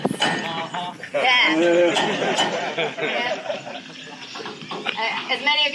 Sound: laughter

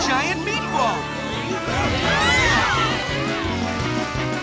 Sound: screaming

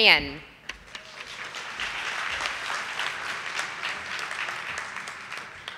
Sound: audience applauding

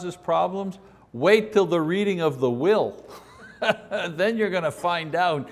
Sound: laughs

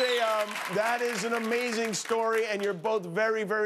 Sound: laughter and applause

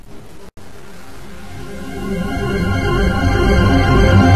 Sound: Windows NT 4.0 shutdown sound

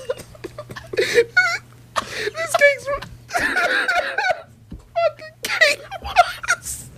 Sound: cry laughing; through tears and laughter

